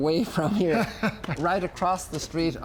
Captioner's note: laughs